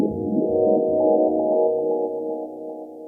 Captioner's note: none